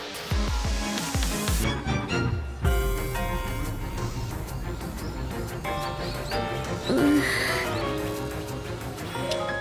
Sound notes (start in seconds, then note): 3.8 sniff